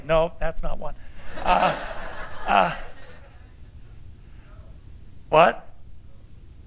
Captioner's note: laughter